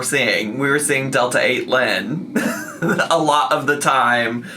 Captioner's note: laughing